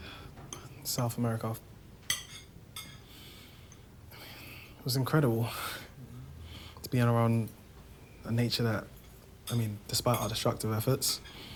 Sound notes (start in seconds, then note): none